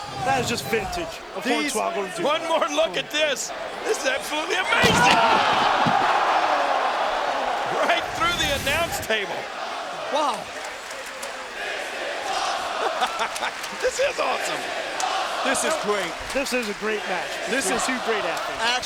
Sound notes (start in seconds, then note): 10.1 applause; 12.2 laugh